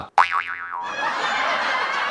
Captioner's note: spring springing; audience laughing